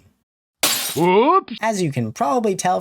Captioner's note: glass shatter